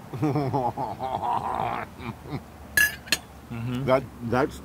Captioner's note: laugh